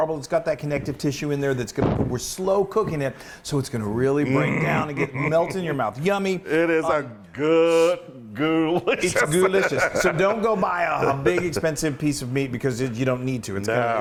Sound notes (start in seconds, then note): 8.8 laugh